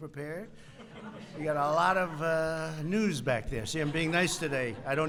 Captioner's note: laughter